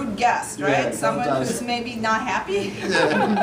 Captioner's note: laughs